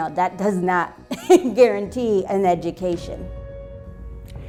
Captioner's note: chuckles